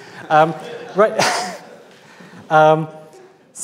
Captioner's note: audience laughs